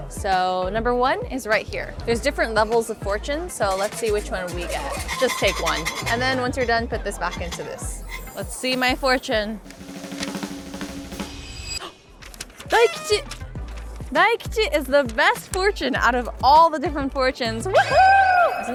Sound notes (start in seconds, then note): 8.8 upbeat drum roll; 12.0 gasps